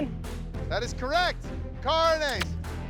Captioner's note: kisses